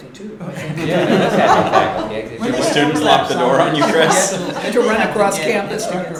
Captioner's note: laughter